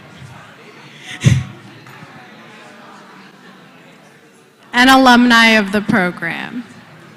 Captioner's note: laugh